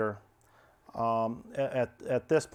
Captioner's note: stammers